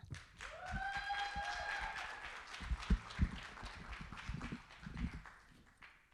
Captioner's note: audience applauding; audience cheering